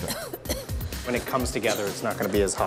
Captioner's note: coughs